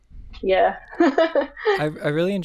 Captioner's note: laughs